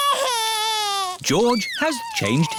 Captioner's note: crying